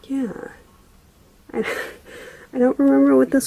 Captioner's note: laughs